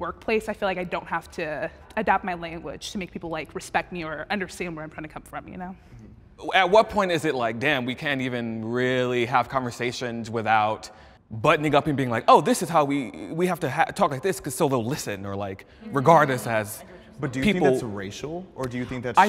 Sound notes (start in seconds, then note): 17.4 mumbling